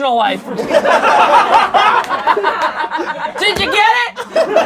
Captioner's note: laughing